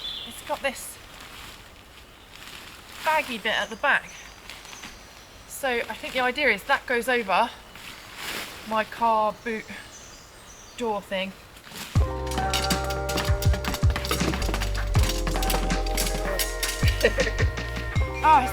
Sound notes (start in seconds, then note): 11.4 tent poles tumbling; 16.8 chuckle